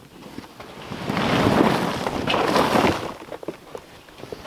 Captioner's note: rocks tumbling